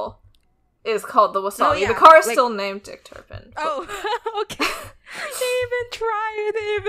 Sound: laughs

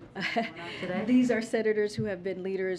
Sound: laughs

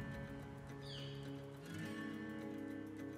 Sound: gentle upbeat music; birds chirping; gentle upbeat music

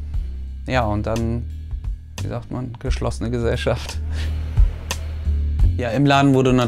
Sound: laughs

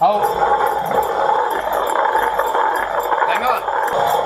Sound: grinding stone hissing

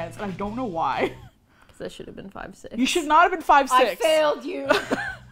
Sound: laughs; quietly; mournfully; laughs

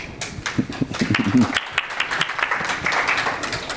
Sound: audience claps

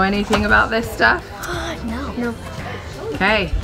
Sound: inhales

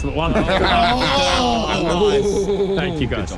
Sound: laughing

